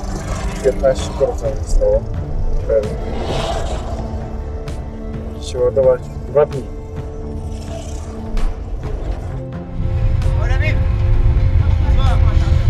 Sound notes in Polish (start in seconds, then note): 9.3 dźwięki ulicy